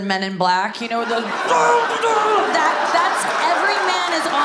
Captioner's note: audience laughs; grunts